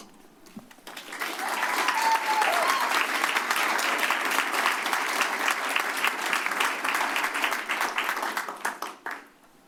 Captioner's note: applause